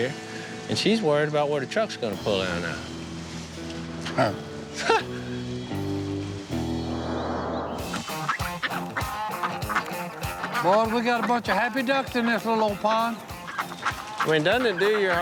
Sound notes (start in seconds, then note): 5.4 music slows; 7.3 ducks quacking